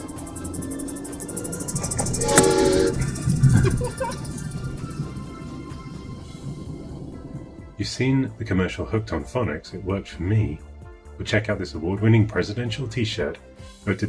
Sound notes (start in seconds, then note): 1.7 horn blowing; 2.9 laughing